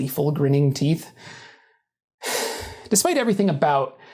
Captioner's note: sighs, imagining the comment section